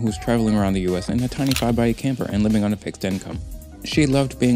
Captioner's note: camera shutter